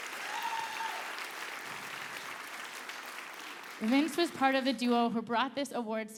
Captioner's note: applause